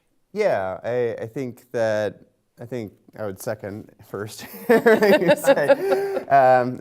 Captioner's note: laughs